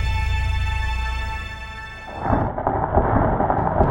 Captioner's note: thunder